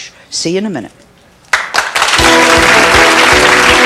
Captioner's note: audience clapping; holiday music